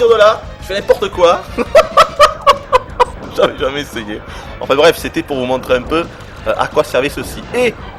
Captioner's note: laughs